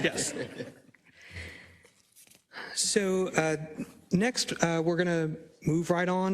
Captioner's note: laugh